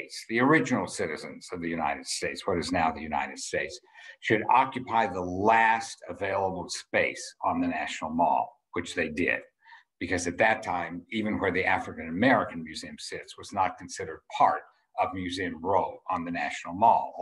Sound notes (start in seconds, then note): none